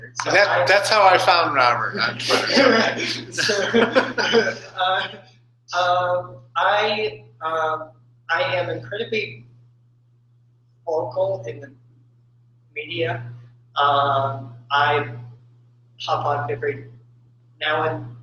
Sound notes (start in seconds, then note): 2.2 laughter